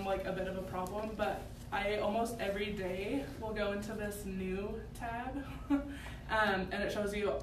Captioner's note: laughs